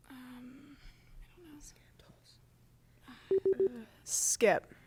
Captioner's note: team whispering